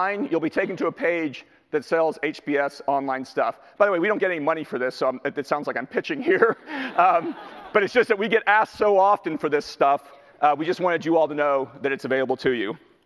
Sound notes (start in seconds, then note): 6.5 laughs; 6.7 audience laughter